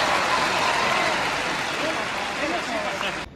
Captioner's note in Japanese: 拍手